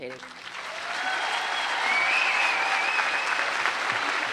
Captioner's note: applause